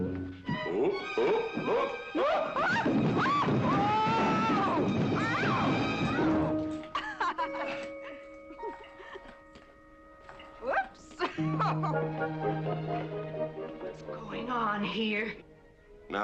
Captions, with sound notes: Ooh. Oh, oh, oh, oh. (BOTH SHOUTING) (MRS. WARREN LAUGHING) Whoops. (LAUGHING) What's going on here?